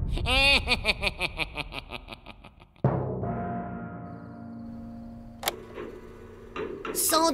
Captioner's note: laughs